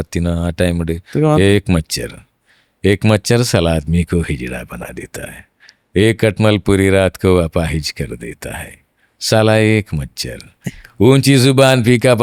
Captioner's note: Mimics Nana Patekar's dialogue from Krantiveer